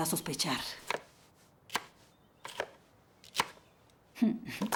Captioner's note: knife chopping